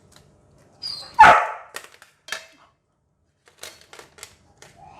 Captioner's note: bark